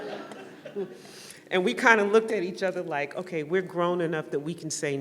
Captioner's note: laughter